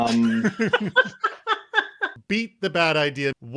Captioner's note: laughs